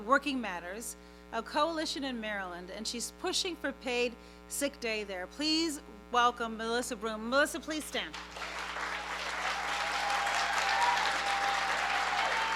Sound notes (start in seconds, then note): 8.1 applause; 8.3 cheering